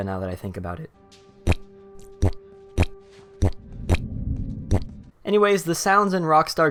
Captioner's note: Squidward stepping